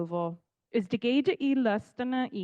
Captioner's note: speaking in Cherokee language